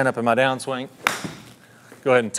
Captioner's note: club smacking golf ball